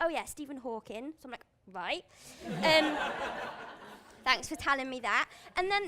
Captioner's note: laughs